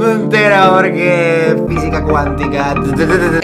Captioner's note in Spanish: sonido cutre del infinito